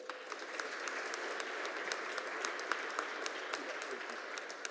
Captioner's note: audience applauding